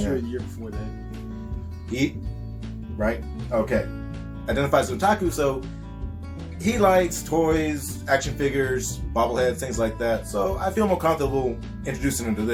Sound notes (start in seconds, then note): none